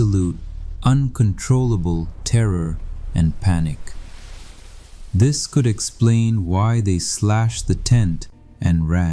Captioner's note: breath